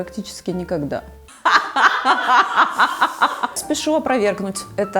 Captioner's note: laughter